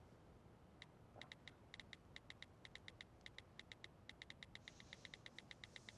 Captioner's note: onscreen keyboard clicking